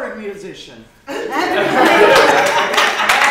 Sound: applause

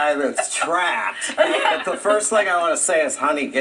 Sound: laughing

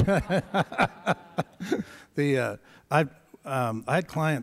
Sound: laughter

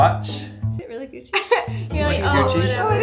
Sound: laughs

